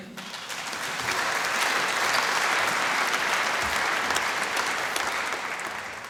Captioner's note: applause